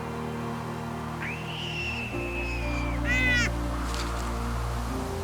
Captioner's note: birds screeching